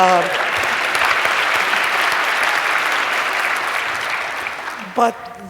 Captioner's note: applause